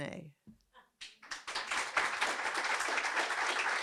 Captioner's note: applause